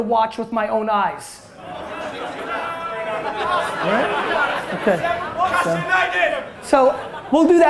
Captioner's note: crowd murmurs